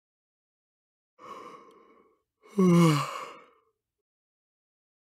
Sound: sound of yawning

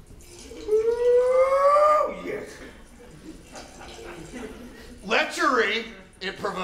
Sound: water sounds

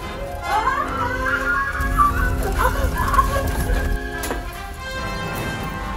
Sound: screaming

